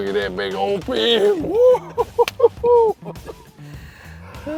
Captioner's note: guy laughing; hands slapping